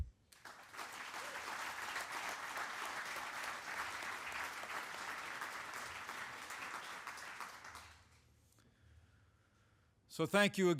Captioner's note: applause